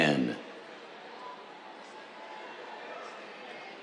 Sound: cheers

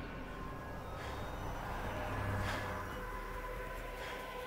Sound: panting

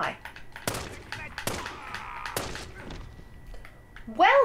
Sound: gunfire

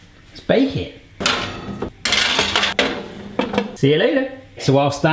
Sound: clanging

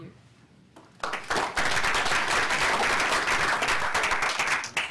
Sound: applause

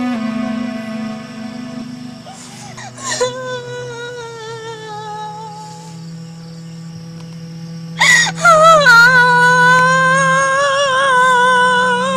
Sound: Wife and Arsana's child is crying

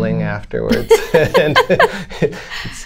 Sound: laughter

